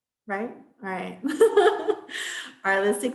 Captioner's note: laughs